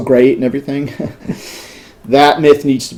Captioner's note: laughter